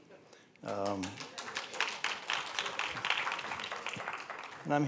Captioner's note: applause